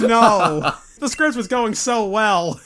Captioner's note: laughs